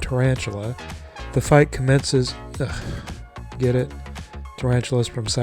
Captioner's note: ugh